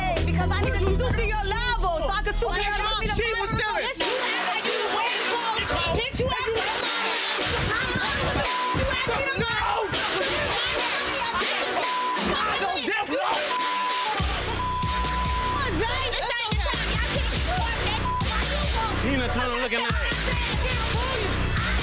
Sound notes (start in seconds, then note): 8.4 beep; 10.4 guests screaming; 10.4 tense electronic tones; 13.4 beep; 14.4 steady tempo drumbeat; 17.7 beep